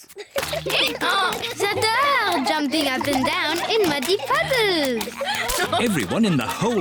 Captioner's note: brays